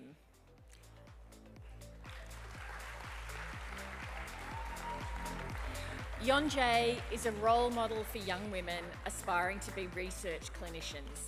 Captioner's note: applause